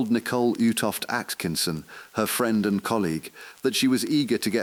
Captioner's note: exhale